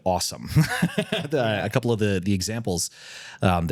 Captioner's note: laughs